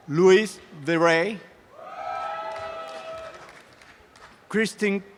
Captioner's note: audience cheering and applause